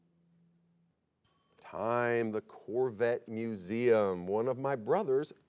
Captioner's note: bell chimes